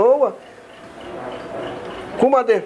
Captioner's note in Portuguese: sons de movimentações na rua